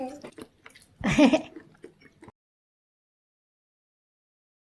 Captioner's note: laughing